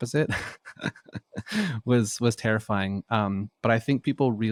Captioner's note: laughs